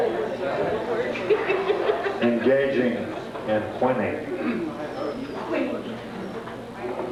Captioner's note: laughter